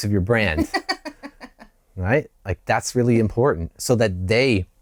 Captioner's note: laughter